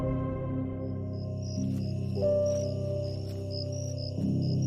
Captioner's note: crickets chirping